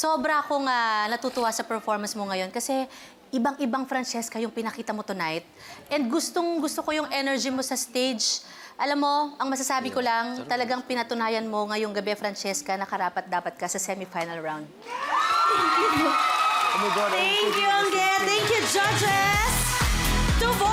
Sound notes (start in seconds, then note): 14.8 audience cheering